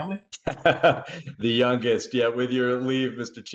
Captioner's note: laughter